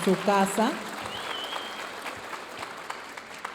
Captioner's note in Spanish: aplausos de la audiencia